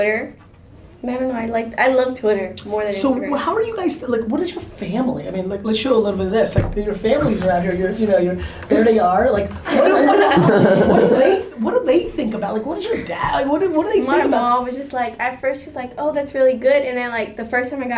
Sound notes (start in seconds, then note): 9.6 laughter